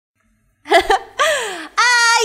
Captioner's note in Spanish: Suspiro